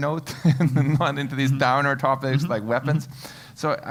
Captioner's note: laugh